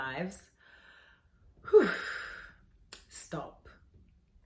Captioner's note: exasperated sigh